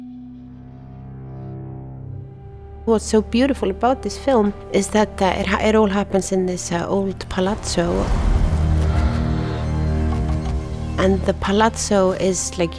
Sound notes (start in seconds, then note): 8.1 ominous music; 8.1 rain tapping